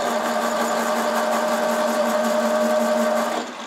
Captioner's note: loud drilling noise